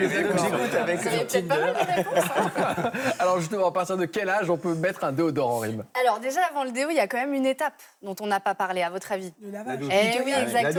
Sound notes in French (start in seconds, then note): 0.0 rires